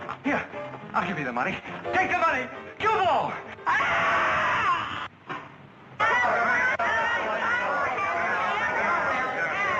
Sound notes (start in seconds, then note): 3.6 screaming; 7.7 crowd chattering